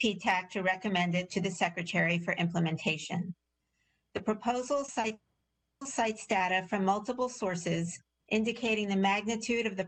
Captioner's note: audio interference